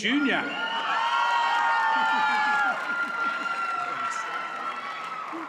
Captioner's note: audience cheers and applauds